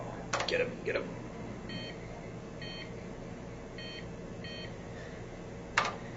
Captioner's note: beeping